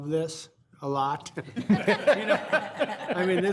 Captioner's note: all laughing